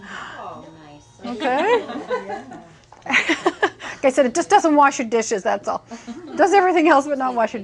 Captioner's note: laughing